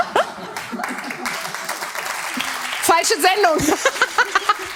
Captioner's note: chuckles